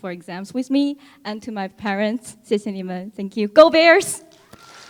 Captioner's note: foreign Language